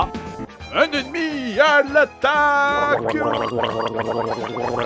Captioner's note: glub glub glub